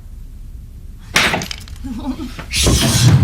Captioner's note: door locks